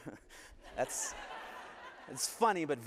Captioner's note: laughter